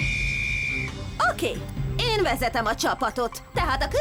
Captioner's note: blows whistle